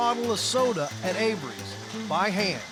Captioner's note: none